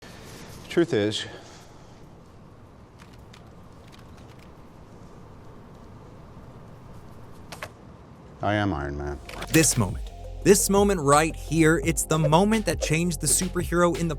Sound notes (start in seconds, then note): 2.6 camera shutters clicking